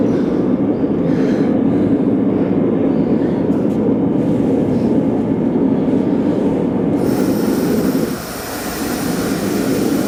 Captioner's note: wind